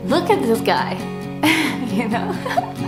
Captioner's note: giggles